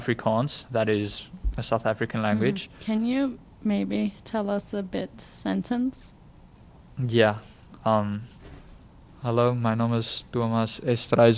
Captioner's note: speaks in Afrikaans